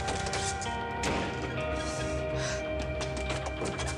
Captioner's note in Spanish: ruido al tirar cosas; portazo